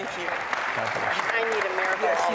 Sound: applause

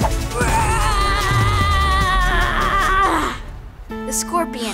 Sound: groaning noises

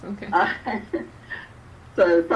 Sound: laughs

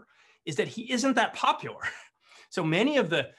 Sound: chuckles

